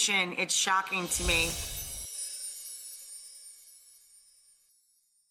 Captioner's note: bells chime